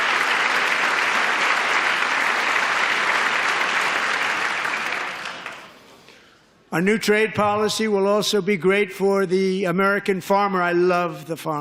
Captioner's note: applause